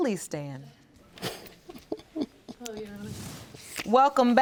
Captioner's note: laughs